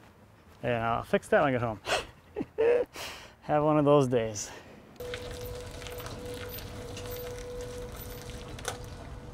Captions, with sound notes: And I'll fix that when I get home. (laughing) Have one of those days. (gravel crunching)